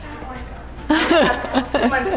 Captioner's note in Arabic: الأم تضحك